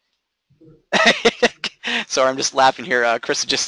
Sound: laughing

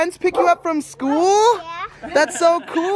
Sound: dog barking

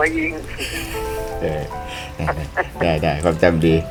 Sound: laughing

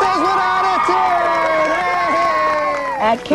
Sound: cheering

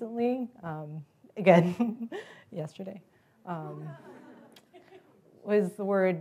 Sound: laugh

